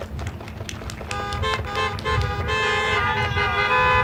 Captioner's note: applause